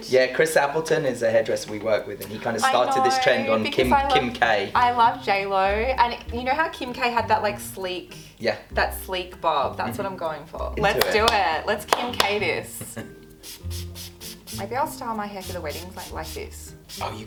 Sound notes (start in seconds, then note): 12.5 air whooshing; 12.7 laughing